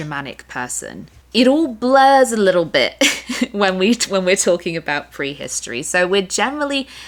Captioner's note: laughter